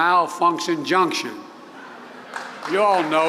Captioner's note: laughter and applause